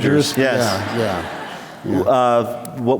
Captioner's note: laughter